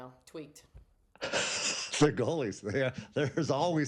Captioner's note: laughs